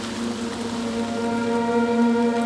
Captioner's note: rain patter